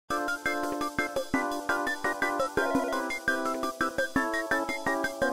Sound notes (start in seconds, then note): 2.6 phone ringing